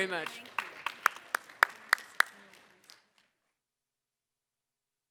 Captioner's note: audience applause